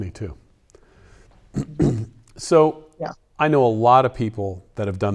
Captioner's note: clears throat